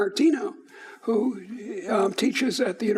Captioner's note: none